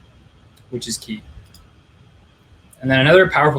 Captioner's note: clicking